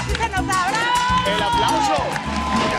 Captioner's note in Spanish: Aplausos